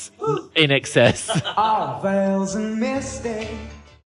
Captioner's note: laughs